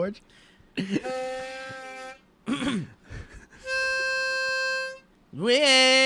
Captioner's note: clears throat